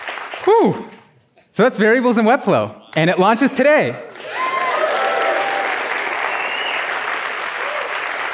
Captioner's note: applause